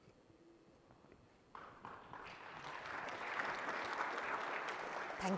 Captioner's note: applause